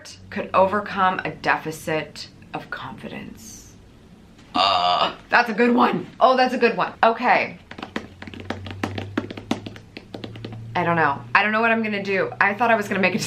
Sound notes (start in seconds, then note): 7.6 drums fingers